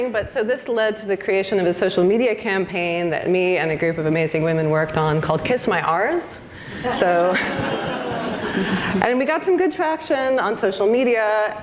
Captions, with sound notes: but so this led to the creation of a social media campaign that me and a group of amazing women worked on, called Kiss My Ars, so... (audience laughs) And we got some good traction on social media